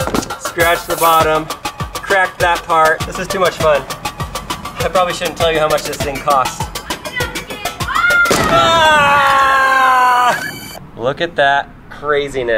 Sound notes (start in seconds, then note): 6.5 yells in the background